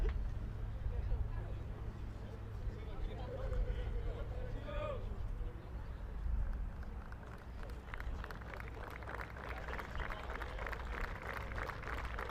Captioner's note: applause